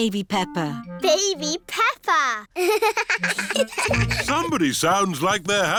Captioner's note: both laugh